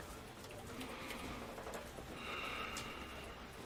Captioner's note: sighs